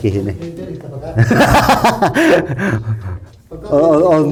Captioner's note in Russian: смех